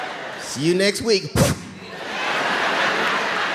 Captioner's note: audience laughing; blows out light